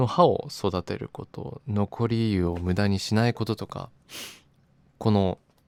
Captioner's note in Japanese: 鼻息